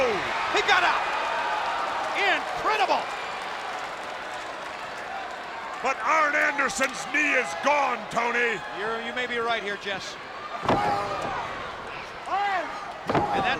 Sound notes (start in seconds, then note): 4.6 applause